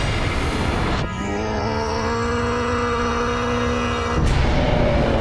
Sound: grunting

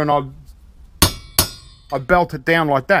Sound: hammer sounds

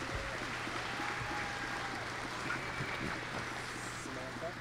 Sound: applause

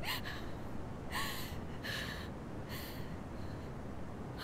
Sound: Googly sobbing

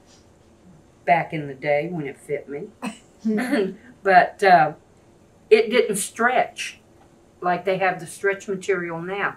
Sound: laughter

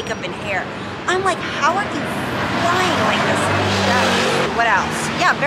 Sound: murmurs

